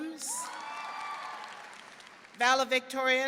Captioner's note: audience clapping and cheering